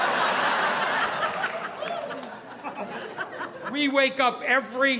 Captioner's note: audience laughing